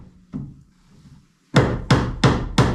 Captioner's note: hammering